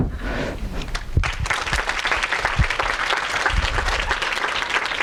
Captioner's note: audience applauding